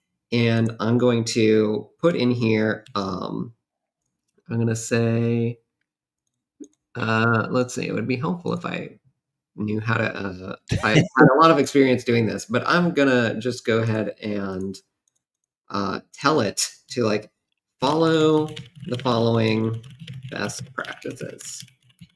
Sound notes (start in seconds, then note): 10.3 mumbles